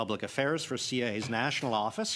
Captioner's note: speaking French